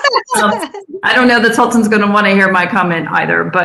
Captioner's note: laughs